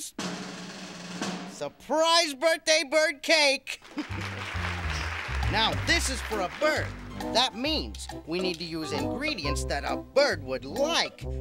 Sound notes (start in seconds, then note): 0.0 drum roll; 3.8 applause